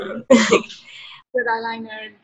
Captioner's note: laughs